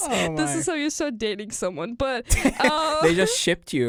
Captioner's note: both laugh